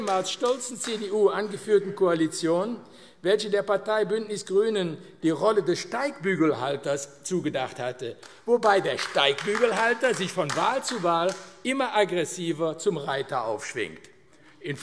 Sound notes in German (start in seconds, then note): 8.2 Beifall AfD